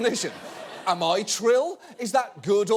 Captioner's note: audience laughing